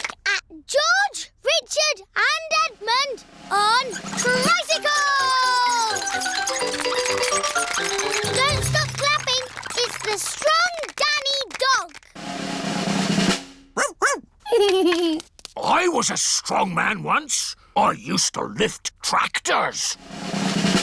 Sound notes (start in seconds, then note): 11.4 drumroll; 14.4 giggles